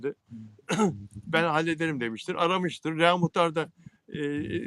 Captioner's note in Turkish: boğazını temizler